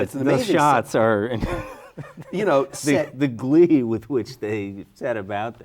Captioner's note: laughs